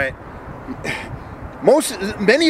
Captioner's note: exasperated sigh